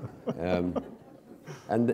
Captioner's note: laughter